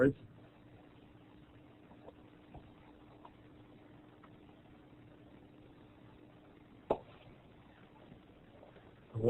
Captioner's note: silence